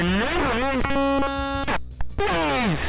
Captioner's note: glitching noise